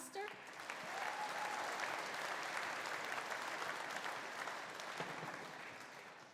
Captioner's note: audience applauding; audience cheering